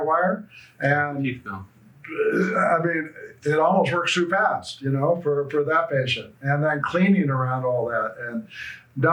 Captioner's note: grunts